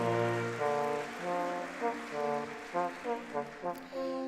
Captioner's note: audience clapping